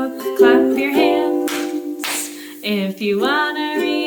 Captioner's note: clapping